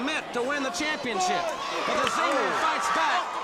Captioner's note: crowd cheering